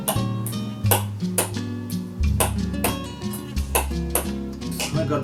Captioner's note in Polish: puk pik puk pik puk pik